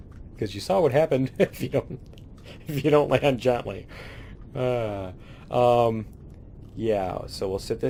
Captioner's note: laughs; laughs